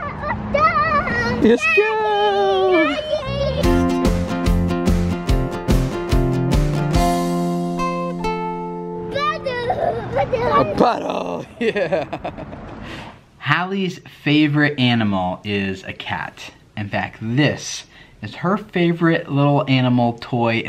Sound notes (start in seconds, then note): 3.4 fun upbeat music; 12.7 laughs